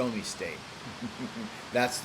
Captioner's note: chuckles